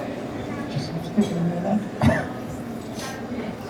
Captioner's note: cough